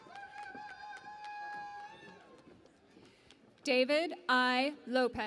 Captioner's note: cheering and Applause